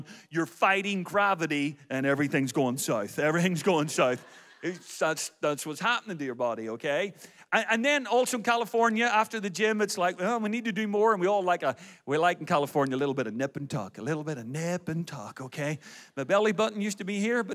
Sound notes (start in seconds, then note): 3.9 audience laughs